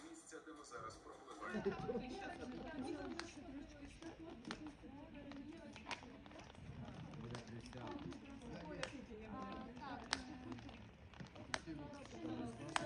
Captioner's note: people talking in the background